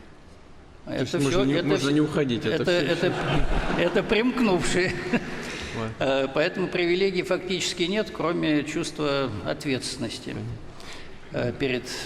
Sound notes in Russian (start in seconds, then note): 2.8 Смех; 2.8 Смех в зале